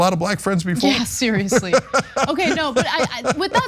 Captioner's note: laugh